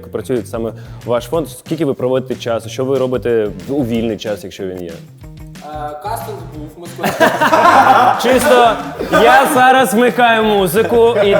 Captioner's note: everyone laughs